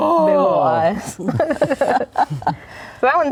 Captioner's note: laughing